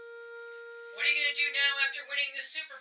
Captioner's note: radio